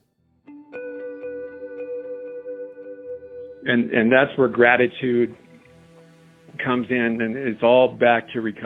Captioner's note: on phone